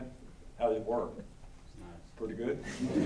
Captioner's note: laughter